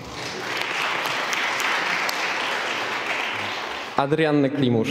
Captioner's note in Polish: oklaski